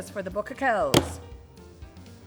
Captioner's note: bang